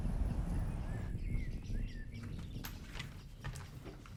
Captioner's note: birds singing